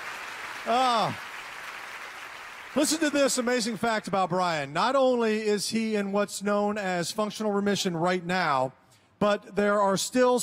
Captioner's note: applause